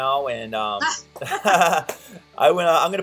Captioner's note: laughter